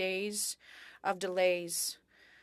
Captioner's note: speaking French